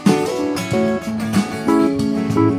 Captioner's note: none